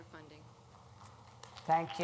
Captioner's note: applause